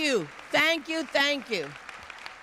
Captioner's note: applause